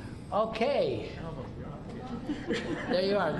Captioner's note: laughter